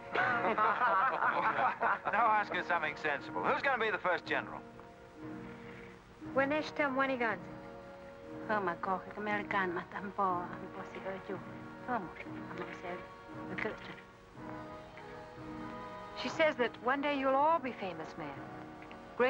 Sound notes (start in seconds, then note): 0.1 men laugh; 6.3 Kit speaking in Native American language; 8.4 woman speaking in Native American language